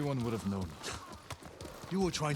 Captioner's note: laugh